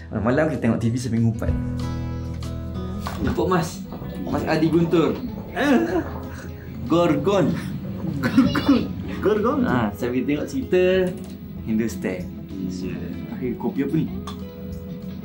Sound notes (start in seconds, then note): 3.2 laugh